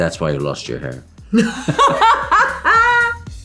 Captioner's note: laughter